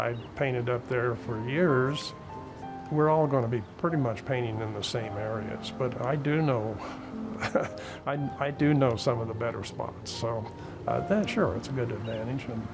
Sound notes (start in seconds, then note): 6.7 laughing